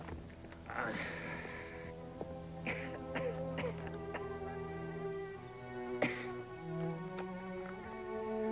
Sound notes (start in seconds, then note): 2.6 coughing